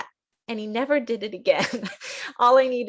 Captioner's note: laughs